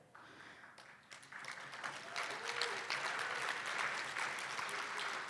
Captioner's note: cheers and applause